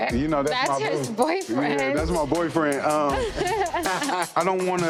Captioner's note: laugh; chill hip-hop music